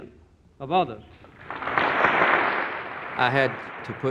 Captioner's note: applause